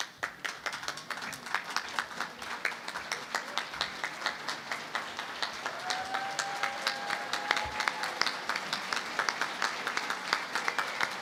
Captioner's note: applause